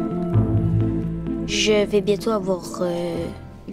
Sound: speaking in French

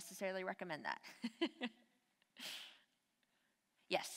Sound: laughs

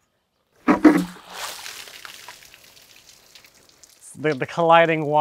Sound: water splashing

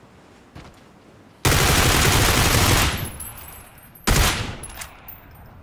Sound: shooting

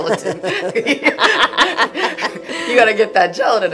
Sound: both laughing

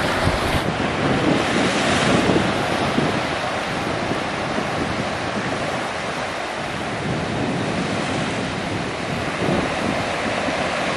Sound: crashing waves

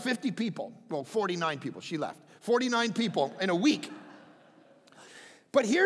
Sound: crowd laughing

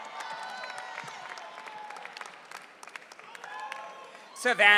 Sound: audience cheering

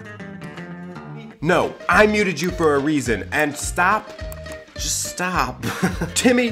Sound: laughing

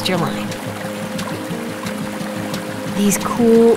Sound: water trickling

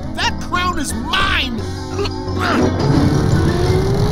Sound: grunting

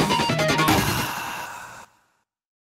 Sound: man exhales

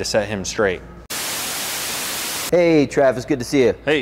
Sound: TV static

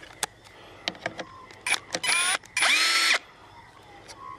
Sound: drilling

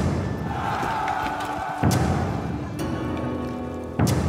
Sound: gentle suspenseful music; army yelling

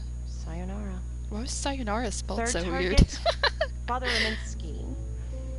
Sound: laughs

